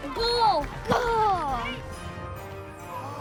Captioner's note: bright music; spectators groaning; bright music